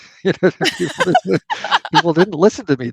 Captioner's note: laughter